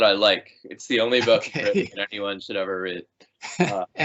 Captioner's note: laughing